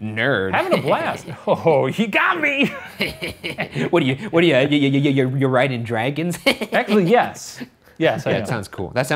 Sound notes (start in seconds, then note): 2.6 laughter; 6.4 mocking laugh